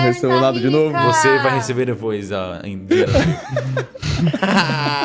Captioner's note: laughing